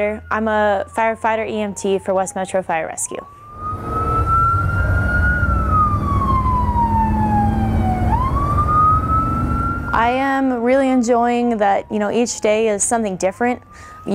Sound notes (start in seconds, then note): 3.5 vehicle engine revving; 3.5 siren blaring